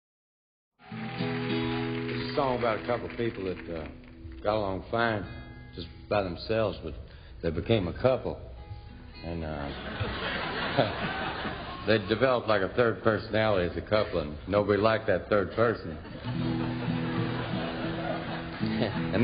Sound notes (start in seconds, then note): 0.8 audience applauding; 1.1 guitar music; 9.6 audience laughing; 9.7 chuckles; 15.8 audience laughing; 18.9 chuckles